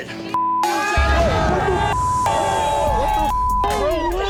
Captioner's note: crowd cheers